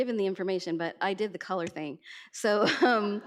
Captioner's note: laughs